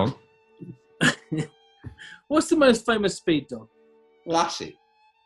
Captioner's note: chuckling